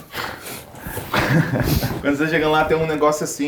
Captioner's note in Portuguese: risadas